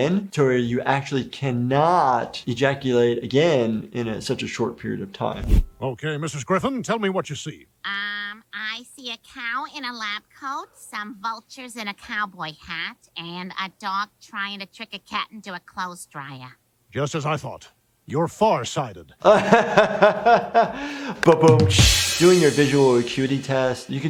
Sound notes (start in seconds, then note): 20.1 laughing; 21.8 cymbals crashing